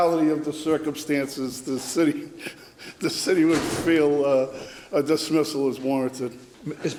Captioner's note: laughs